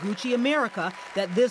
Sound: cheering

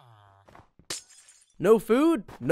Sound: glass breaking

